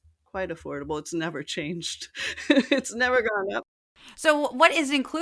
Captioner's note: laugh